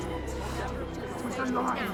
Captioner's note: chattering